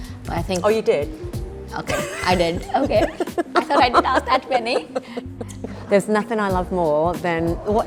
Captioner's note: laughs